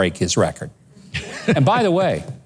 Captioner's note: laughs